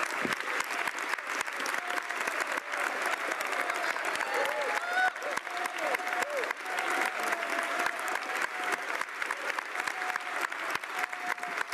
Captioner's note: applause